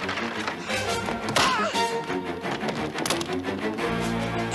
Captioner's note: yelps